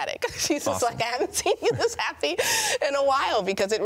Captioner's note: laughs